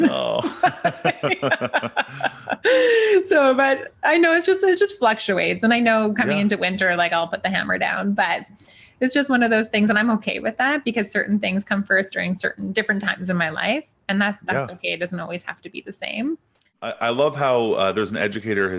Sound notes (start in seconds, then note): 0.0 both laughing; 2.0 gasps